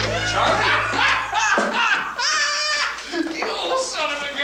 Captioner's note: Charlie laughing